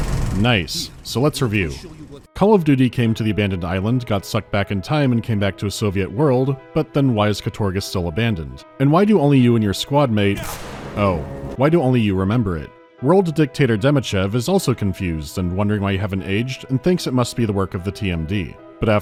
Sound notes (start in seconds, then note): 10.4 ptow